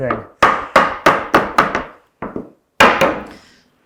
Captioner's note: mallet bangs